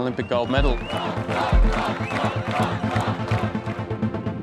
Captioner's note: crowd clapping and chanting